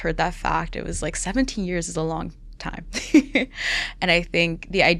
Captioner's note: laughs